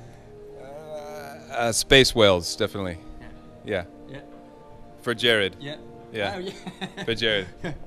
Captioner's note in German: lacht